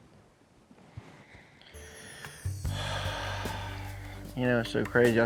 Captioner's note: sighs